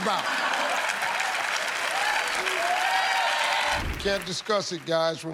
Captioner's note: cheers and applause